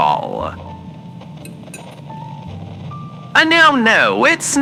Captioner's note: spoon clinking against bowl fx